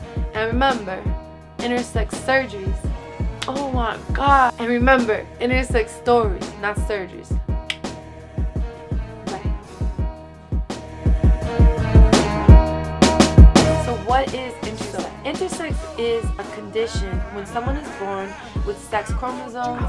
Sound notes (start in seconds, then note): 10.3 clicks teeth